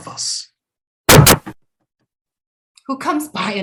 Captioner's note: sharp rapping at the door